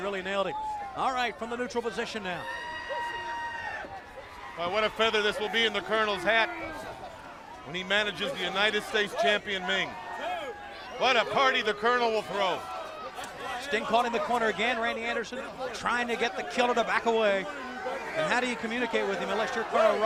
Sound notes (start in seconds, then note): 4.2 crowd chatter